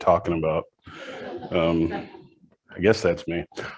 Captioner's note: audience laughs